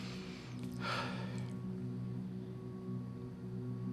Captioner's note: sighs